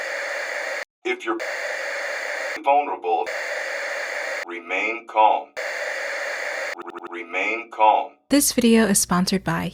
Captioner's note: glitch